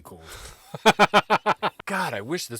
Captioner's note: laughing